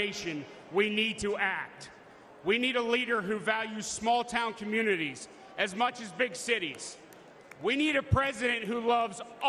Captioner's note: cheers and applause